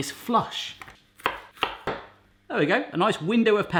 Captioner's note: chopping